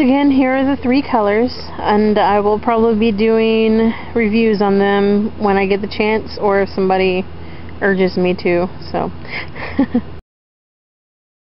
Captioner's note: laughs